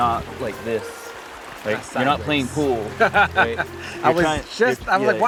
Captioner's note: Baratunde laughs